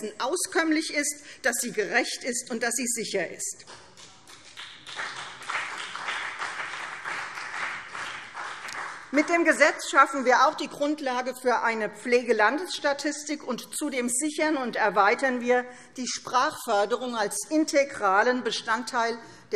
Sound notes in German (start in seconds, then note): 3.7 Vereinzelter Beifall CDU und BÜNDNIS 90/DIE GRÜNEN